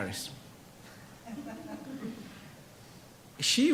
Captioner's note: audience laughs